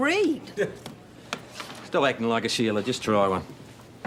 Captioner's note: laughs